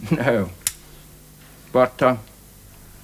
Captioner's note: Guthrie chuckles